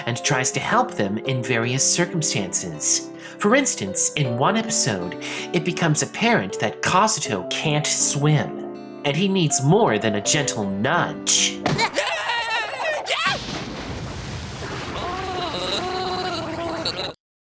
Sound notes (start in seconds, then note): 11.8 Kazuto screams; 14.9 gargling